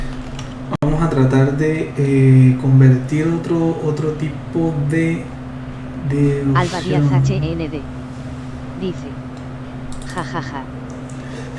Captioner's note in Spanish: risas